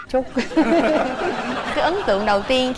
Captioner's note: laughing